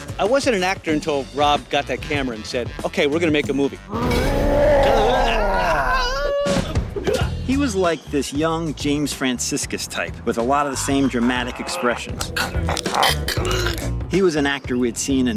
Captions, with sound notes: - I wasn't an actor until Rob got that camera and said, "ok, we're gonna make a movie!" (Roaring) - He was like this young James Franciscus type with a lot of the same dramatic expressions. He was an actor we'd seen in